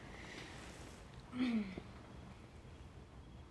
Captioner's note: clears throat